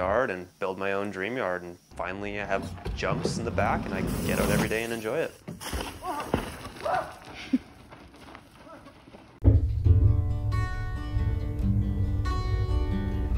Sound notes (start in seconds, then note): 6.4 happy cheer; 7.3 laughter